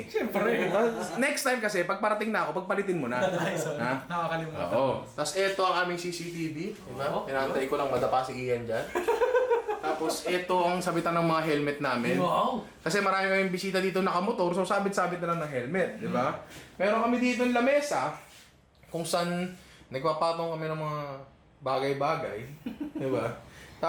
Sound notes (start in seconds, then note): 0.1 laughter; 9.0 laughs; 22.6 chuckles